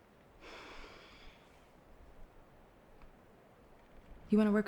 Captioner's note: Rachel sighs